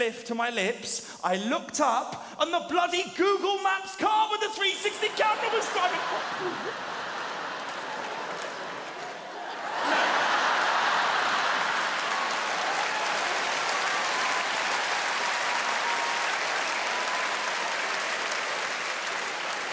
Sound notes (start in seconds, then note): 5.1 audience roaring; 8.1 audience clapping; 10.1 audience cheering